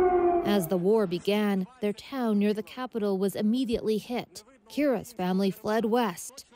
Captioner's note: sirens